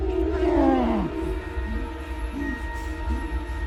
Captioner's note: Josh groaning